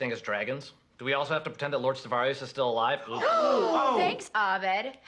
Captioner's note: everyone gasps